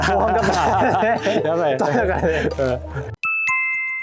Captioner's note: laughs